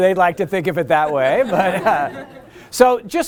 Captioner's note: laughter